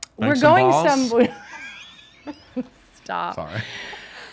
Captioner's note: laughs